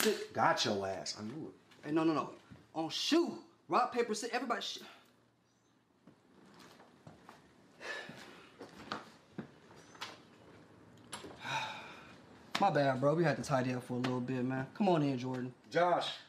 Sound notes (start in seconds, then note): 7.8 sighs